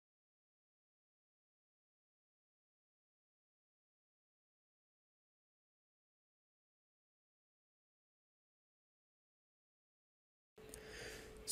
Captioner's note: silence